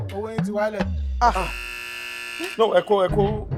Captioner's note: buzzer sounds